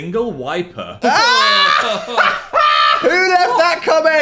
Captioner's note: Dan screams and laughs; Phil groans